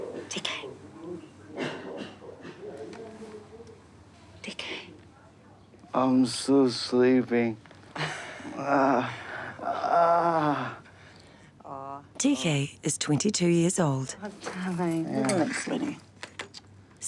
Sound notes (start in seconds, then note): 7.9 chuckles; 8.4 groans